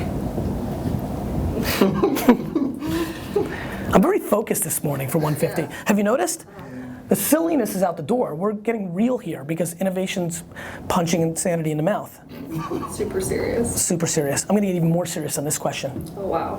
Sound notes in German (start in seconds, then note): 1.6 Lachen